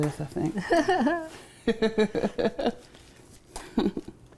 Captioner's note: both laughing